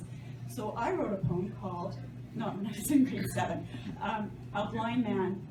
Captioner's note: chuckles